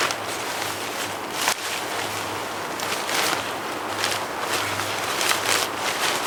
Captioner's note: sound of rustling tent